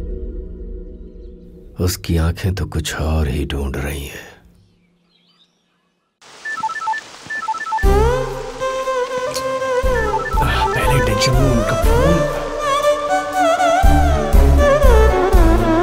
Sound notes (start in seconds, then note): 7.2 mobile phone ringing